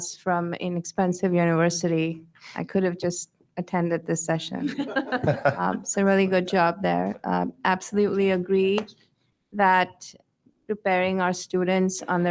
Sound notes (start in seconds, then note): 4.6 board members laugh